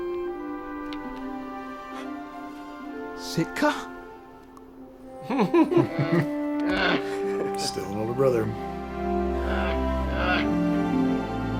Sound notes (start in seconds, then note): 6.6 grunts in bear; 8.8 grunts in bear